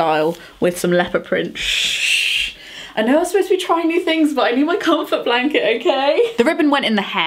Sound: shhh!

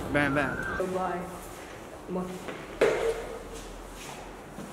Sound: in Nepali

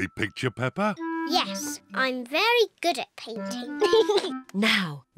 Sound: giggles

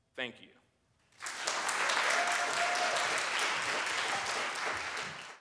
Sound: applause

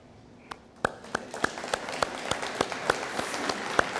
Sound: audience applauding

